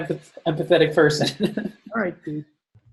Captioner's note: laughs